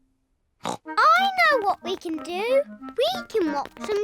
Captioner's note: snorts